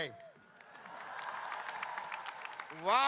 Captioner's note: audience cheering and applauding